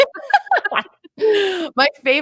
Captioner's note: laughs